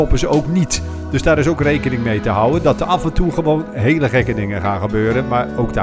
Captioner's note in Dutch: Voiceover